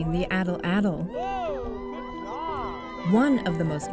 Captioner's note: cheering